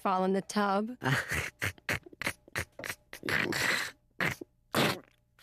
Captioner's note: giggling and snorting